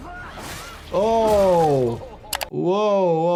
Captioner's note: characters shouting; flesh spattering